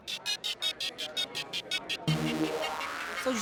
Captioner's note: restaurant patrons chattering